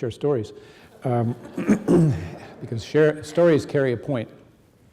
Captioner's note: audience laughing